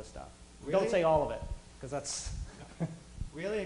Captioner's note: laughs